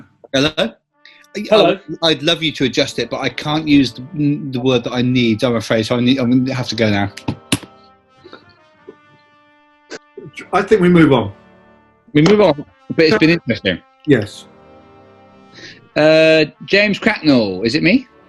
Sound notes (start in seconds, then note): 7.5 giggling